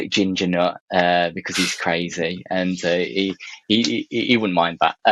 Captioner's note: chuckles